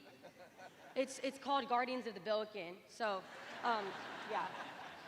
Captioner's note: laughter